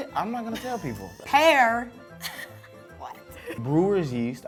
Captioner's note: laughs